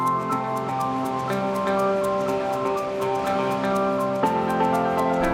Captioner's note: water rushing; bright music